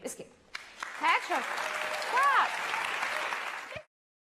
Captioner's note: applause